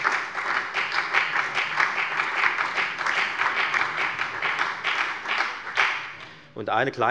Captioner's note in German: Beifall bei der FDP, der SPD und der LINKEN